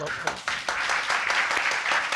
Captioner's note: audience applauding